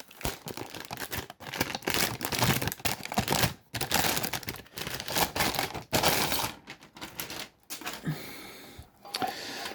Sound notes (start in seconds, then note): 0.7 bag rustling